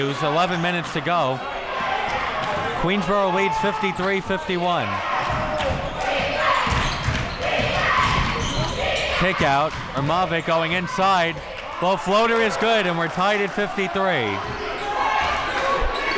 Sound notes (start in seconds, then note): 6.0 crowd